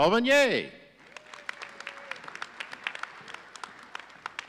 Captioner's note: audience applauding